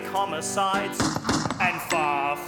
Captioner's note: gun shots